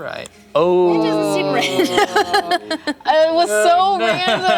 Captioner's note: laughs